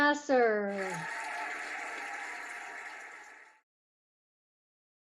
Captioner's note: cheering and applauding